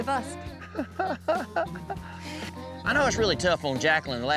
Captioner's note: chuckles